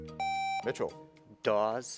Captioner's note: buzzer beeps